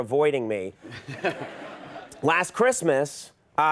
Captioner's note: audience laughs